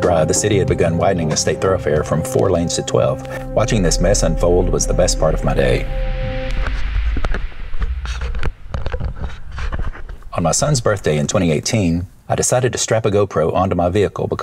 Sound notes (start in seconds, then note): 6.6 shuffling sounds